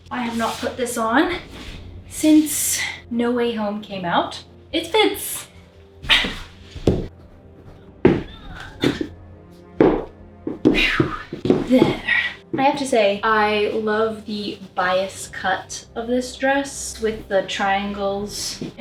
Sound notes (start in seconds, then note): 10.6 phew